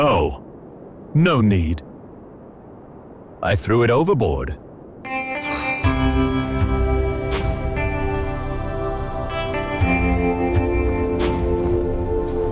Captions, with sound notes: Oh, no need. I threw it overboard. (Breath of anger) (Soothing music)